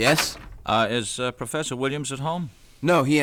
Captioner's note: footsteps approaching; door opens